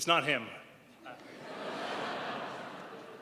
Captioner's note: crowd laughs